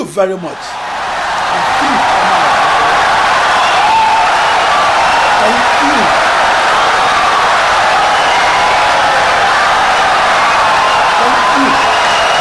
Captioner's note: wild applause and cheering for 17 seconds